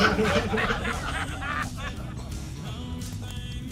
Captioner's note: laughter